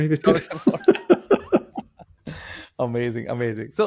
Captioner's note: laughter